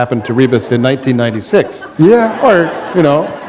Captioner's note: laughter